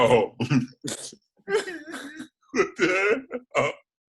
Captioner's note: laughs